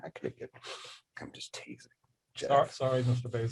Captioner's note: whispering